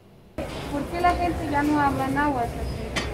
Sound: in Spanish

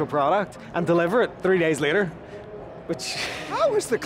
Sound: chuckles

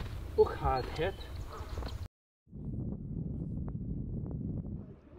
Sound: speaking in foreign language

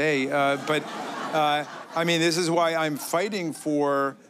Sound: laughter

